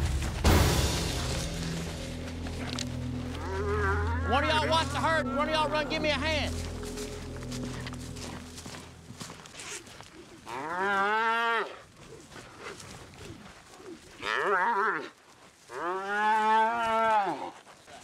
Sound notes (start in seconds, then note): 3.2 mooing; 7.1 hoof beats; 10.4 mooing